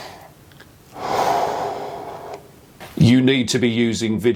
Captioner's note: deep exhale